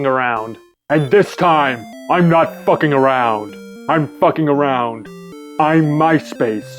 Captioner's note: Jesse Ventura Voice